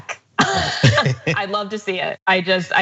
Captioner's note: laugh